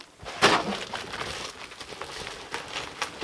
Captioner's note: none